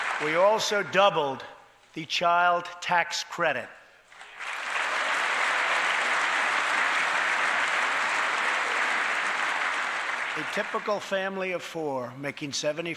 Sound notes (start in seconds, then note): 0.0 applause; 4.1 applause